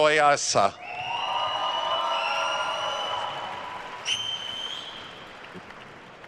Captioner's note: attendees cheering and applauding